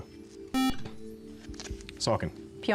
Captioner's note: buzzer